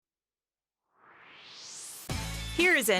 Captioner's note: swoosh